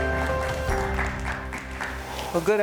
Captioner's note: audience clapping